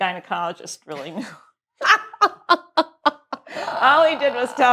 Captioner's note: laughs